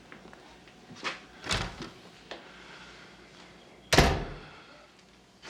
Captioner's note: door opens, shuts